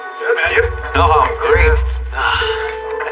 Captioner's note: sighs